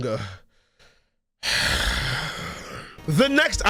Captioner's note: sigh